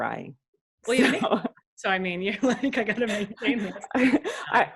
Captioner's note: laughs